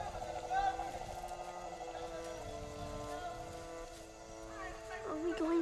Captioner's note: shouting continues